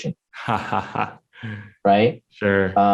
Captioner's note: laughs